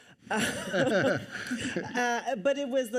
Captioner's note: all laugh